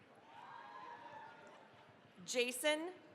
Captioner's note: cheering, applause